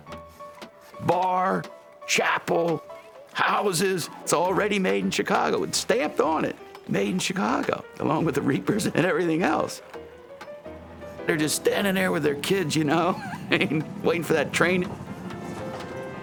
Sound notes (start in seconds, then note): 12.6 chuckles